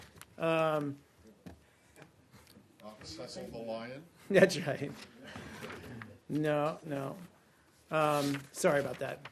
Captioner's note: laughter